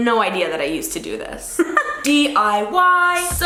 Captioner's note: laughs